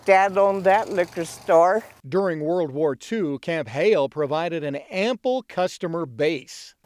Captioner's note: engine revving distantly